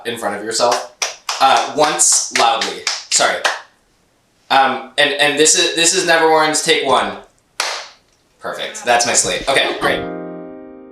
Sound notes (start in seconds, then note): 7.6 claps board